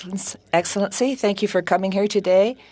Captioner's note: speaking French